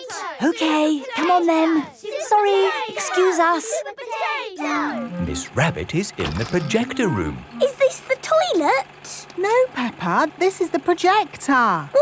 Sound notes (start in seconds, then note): 0.6 children chanting